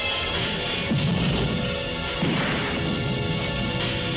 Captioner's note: loud explosion